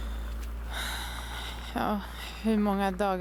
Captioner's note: yasmin sighs